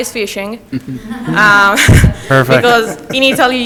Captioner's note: everyone laughs